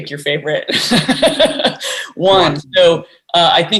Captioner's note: laughs